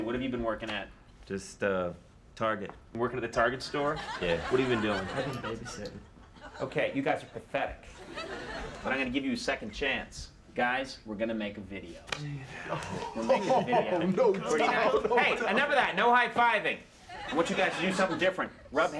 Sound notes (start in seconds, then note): 7.9 audience laughing; 12.3 guys exclaiming